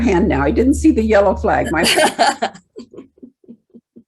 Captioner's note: laughs